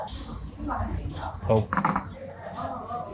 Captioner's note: food reviewer speaks in foreign language